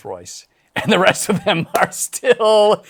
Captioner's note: laughs